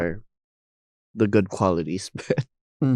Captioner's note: chuckling